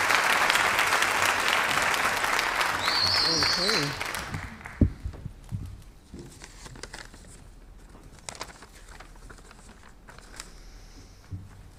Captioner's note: applause